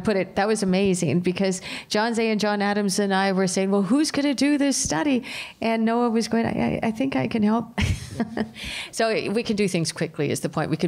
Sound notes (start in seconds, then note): 7.8 laughter